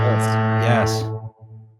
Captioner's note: foghorn